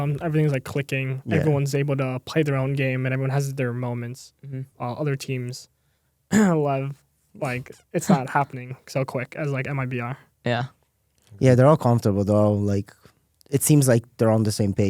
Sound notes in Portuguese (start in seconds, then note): 8.0 risos